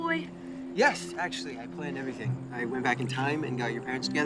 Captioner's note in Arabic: none